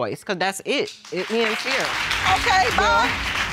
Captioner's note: applause